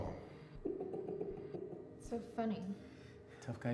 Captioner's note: keith laughs